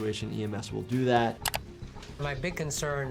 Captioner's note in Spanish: clic del mouse